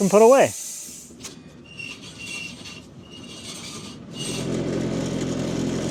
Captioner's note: woodcutting machine squeaking; tractor rumbling